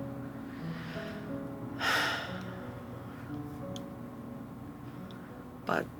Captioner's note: sighs